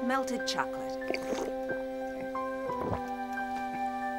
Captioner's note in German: schluckt